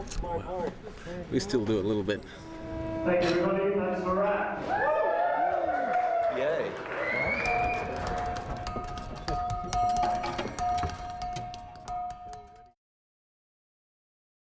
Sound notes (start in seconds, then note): 4.5 cheering; 7.4 tapping On Tank